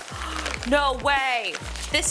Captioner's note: gasps